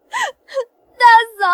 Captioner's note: sobbing